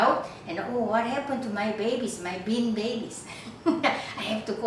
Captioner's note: chuckles